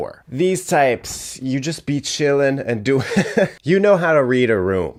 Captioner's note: chuckling